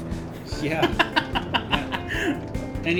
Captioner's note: laughs